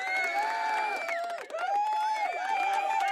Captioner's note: audience cheering